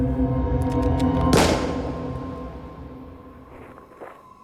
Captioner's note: gunshot